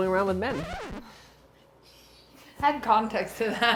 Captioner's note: record screeches